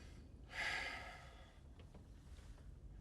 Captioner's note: sighs